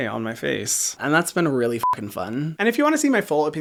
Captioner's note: beep